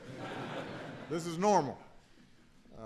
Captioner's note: laughter